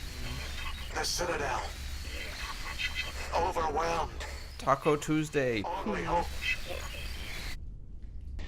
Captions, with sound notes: the Citadel... [static] ... overwhelmed... [static] ... only hope... [static]...